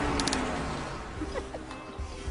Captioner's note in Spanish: Risas